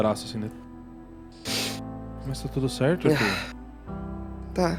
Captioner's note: sniffles